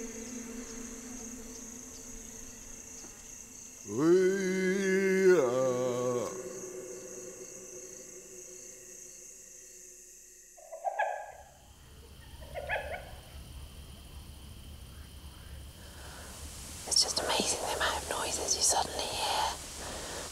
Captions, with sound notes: (WHISPERING) It's just amazing the amount of noises you suddenly hear.